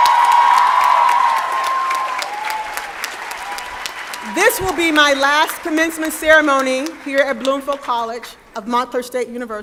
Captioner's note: applause